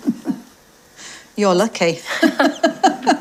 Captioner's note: laughs